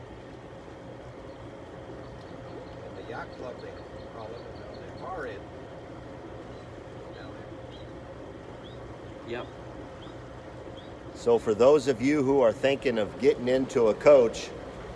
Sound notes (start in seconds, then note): 3.1 background chatter